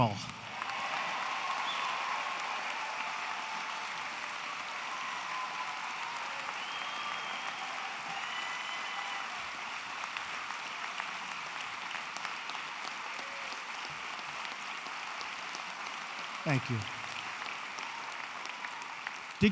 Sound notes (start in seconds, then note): 0.2 applause; 12.1 applause